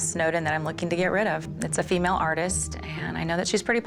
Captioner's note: none